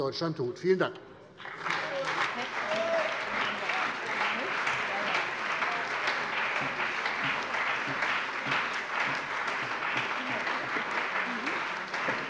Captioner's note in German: Beifall bei der CDU und dem BÜNDNIS 90/DIE GRÜNEN